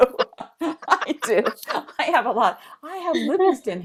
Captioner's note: laughter